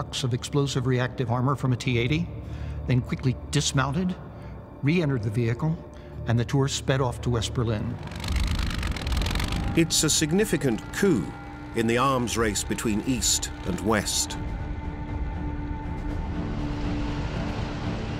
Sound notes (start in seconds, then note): 8.2 engine rumbles